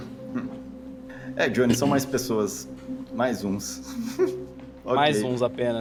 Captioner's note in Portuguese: risada